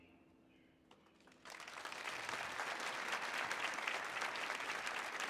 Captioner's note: audience applauding